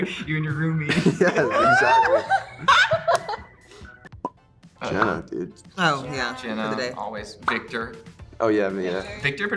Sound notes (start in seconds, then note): 0.0 everyone laughs; 3.1 Joy and Emma laughing